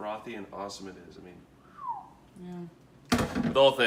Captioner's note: whistles